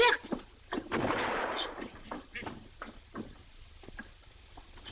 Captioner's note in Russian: отдаленный звук взрыва